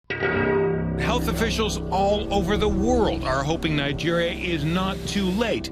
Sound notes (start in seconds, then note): 0.2 dissonant music; 1.5 voiceover